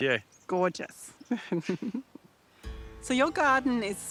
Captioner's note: chuckles